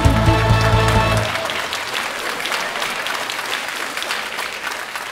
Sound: audience applauding

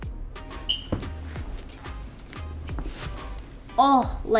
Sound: shoes squeaking

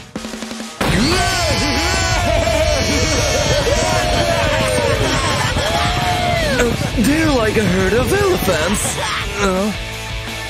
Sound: screaming happily

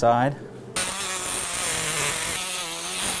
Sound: drilling sound

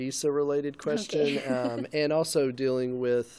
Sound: laughing

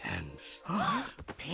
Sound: all gasp

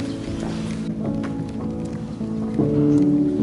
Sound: footsteps

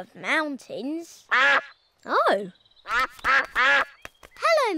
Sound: all quack

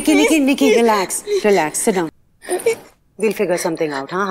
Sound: crying; breathing loud

